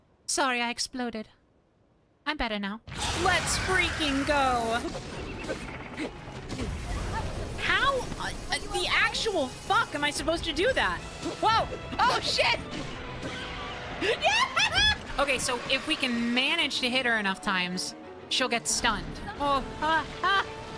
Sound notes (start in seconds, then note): 7.8 stammering; 13.9 cheering